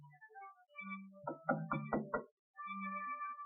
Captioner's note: knocking